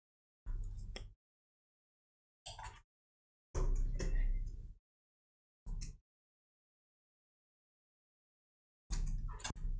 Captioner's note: silence